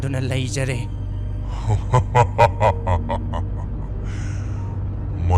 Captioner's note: laughing